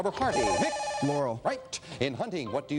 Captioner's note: beeping